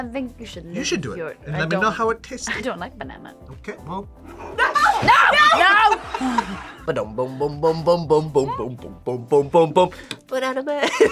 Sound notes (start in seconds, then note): 4.3 laughs